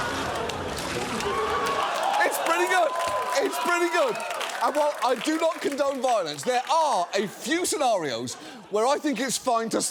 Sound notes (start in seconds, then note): 1.5 audience cheering